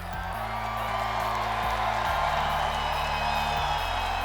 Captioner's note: audience cheering